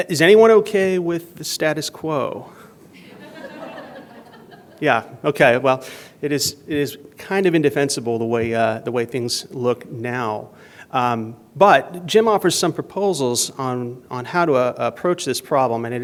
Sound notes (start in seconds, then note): 2.9 laughter